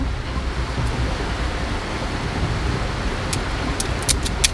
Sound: clacking noise

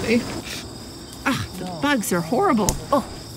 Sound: smack

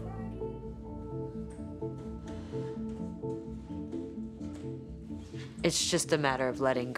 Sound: soft instrumental music; feet stepping

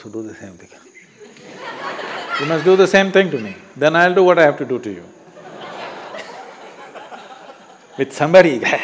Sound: laughs

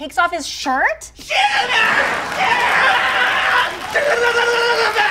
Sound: Chibby screaming

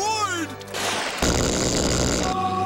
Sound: zapping

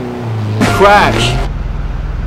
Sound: crash

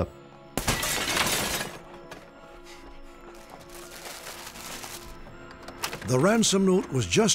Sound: shattering glass

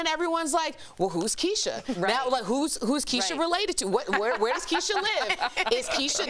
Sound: laughter

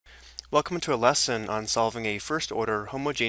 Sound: voiceover

